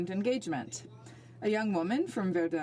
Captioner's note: speaking French